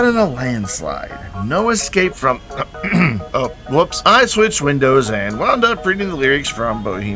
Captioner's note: clears throat